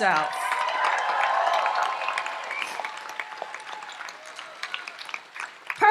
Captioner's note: audience applauds and cheers